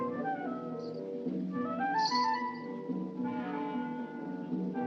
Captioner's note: bracelets Jingle